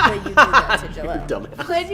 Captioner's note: laughing